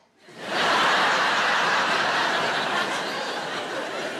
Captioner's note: audience laughs